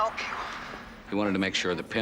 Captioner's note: Bennett on phone